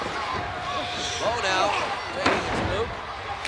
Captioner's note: body thudding